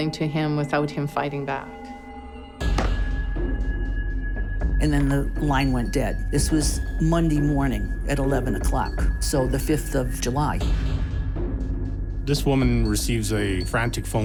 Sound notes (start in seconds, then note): 2.6 thumping